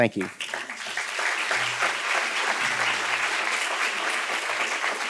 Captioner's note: students claps